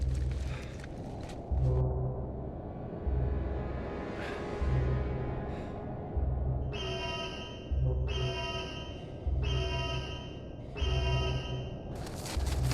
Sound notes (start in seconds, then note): 6.7 alarm blaring